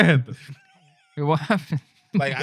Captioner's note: non-english Speech